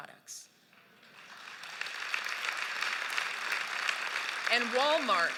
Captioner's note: applause